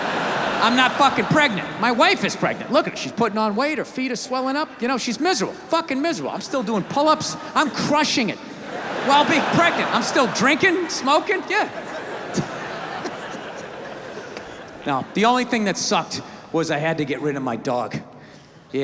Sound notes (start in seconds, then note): 0.0 audience laughs; 8.8 audience laughs; 12.6 laughs